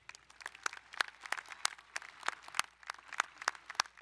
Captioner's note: applauding